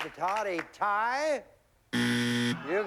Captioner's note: buzzer